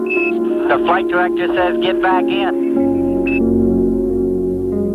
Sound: astronaut voice

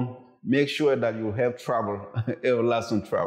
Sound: chuckles

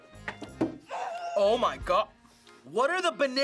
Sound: screams with mouth closed

